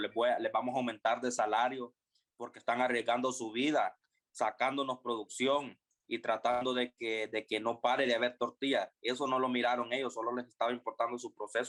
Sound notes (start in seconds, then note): 6.3 speaking spanish